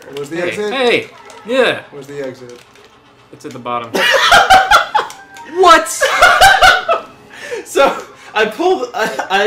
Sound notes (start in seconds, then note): 3.7 cracks up; 6.0 keeps laughing